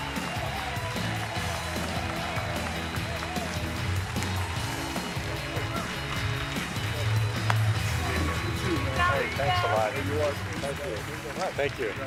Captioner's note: cheers and applause